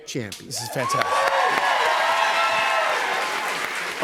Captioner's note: cheers and applause